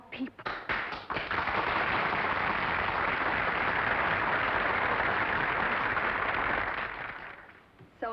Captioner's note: applause